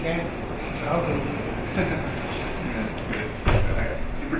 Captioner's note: laughing